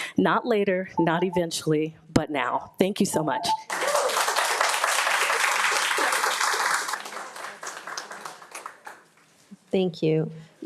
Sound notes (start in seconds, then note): 3.6 attendees applauding; 3.7 attendee cheering